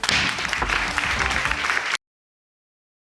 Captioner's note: audience clapping